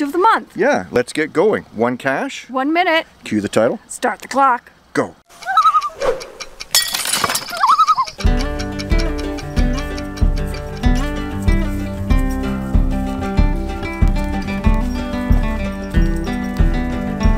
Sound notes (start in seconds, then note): 5.3 loon call